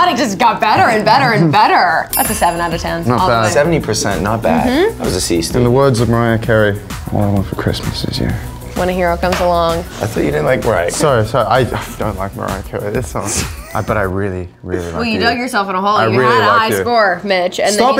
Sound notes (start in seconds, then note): 13.0 laughing